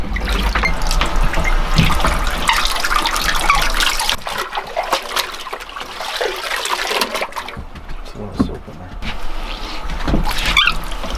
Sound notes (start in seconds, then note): 1.9 water dripping; 5.0 water sloshing